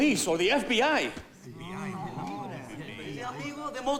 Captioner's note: overlapping chattering